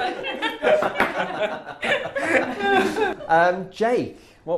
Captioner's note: laughter